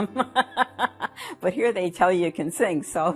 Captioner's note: laughs